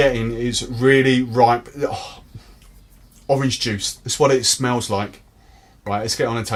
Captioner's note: exhales